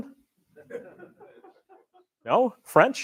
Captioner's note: laughter